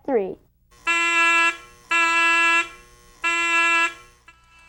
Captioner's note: horn blowing